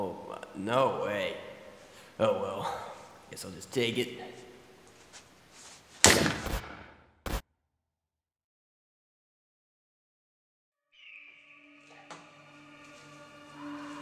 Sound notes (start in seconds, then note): 6.0 gun shot sound; 6.4 glitch sound